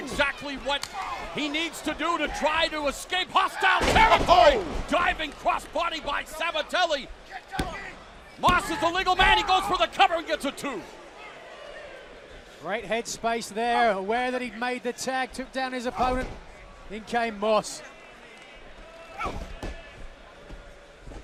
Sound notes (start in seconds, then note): 10.2 crowd chatter